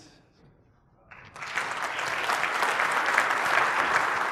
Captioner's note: applause